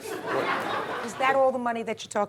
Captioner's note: audience laughing